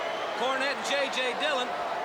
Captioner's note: crowd cheering